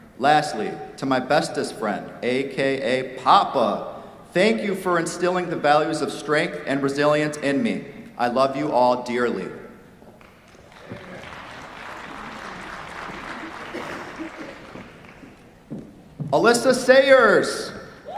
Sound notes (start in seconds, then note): 10.2 applause; 17.9 cheers, applause